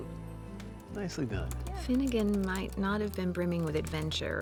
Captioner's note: typing